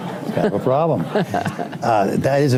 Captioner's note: laughter; laughs